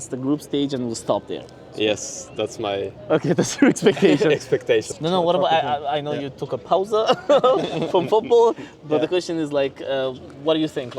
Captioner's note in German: gelächter